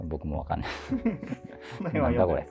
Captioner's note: laughing